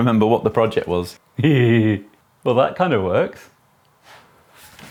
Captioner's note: giggles